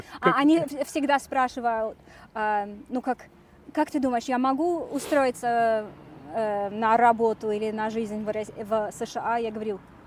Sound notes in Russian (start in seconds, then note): none